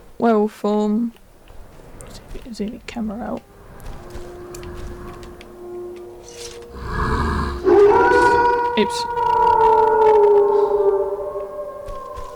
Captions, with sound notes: werewolf form zoom camera out *Howl*